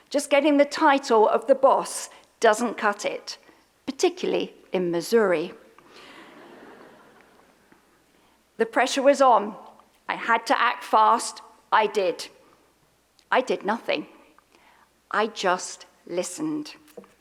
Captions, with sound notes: Just getting the title of the boss doesn't cut it, particularly in Missouri. (audience laughs) The pressure was on, I had to act fast, I did. I did nothing, I just listened.